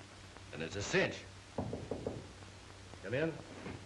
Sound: knocking at the door

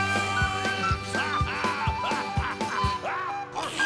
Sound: laughing

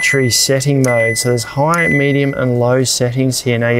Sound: fridge beeps

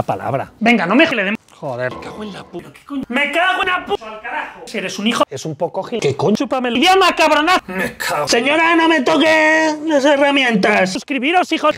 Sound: many bad-sounding words and insults in Spanish

